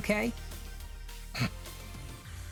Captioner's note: sniggers